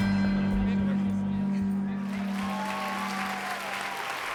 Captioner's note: cheering and applause